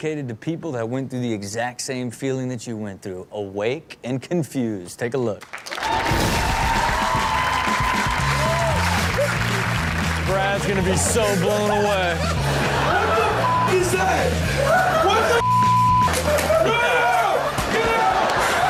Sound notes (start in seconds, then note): 5.4 audience cheers and claps; 12.4 audience laughs; 15.4 beep sound; 18.4 audience laughs